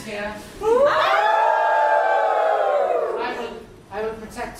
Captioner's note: audience wolf howls